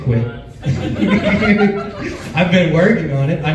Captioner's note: laughs